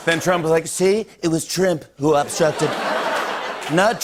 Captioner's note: As Trump; laughter